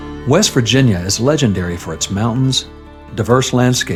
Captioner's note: voice-over